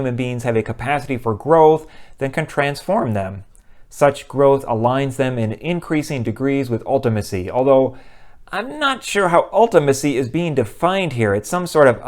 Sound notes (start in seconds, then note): none